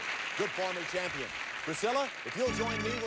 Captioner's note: audience applauding